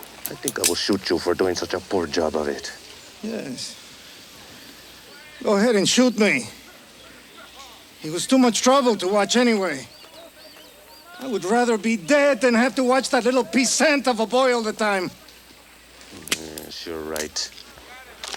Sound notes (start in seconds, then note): none